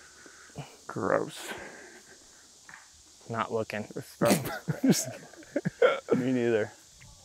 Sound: chuckles

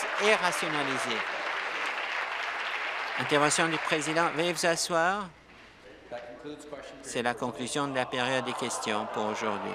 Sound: applause

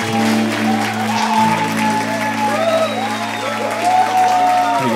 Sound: applause

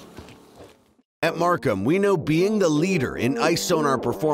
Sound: voiceover

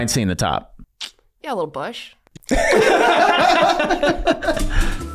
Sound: everyone laughing

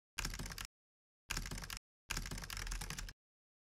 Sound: keypad clicking

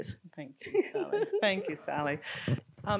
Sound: laughing

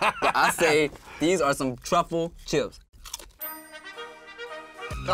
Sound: bell dings; trumpets fanfare

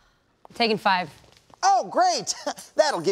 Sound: chuckles

